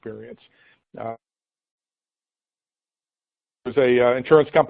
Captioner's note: audio break